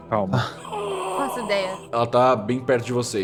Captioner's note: Sukkal growls